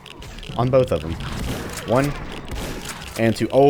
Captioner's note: shotgun blasts; shotgun blasts again